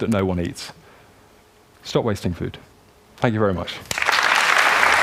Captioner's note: applause